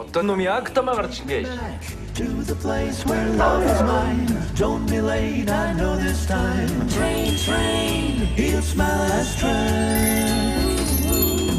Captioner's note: laughs